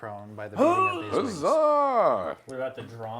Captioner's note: all chattering